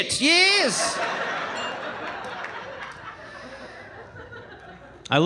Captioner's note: audience laughing